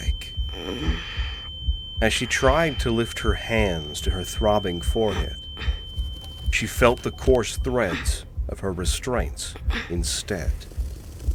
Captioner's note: Ilani groans, labored breaths, sounds of effort against rope